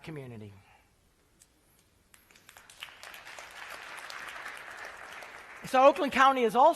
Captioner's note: applause